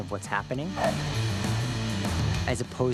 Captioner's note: barks